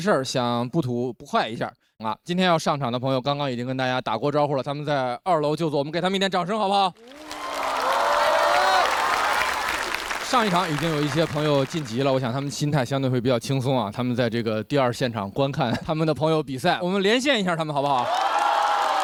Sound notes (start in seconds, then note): 6.9 cheers